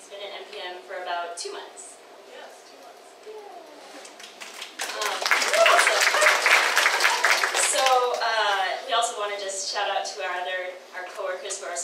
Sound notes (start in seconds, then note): 4.1 audience applauding